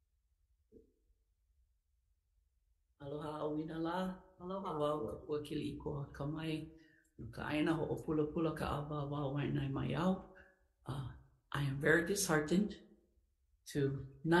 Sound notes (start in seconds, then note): 3.3 speaking Ōlelo Hawai'i; 5.7 speaking Ōlelo Hawai'i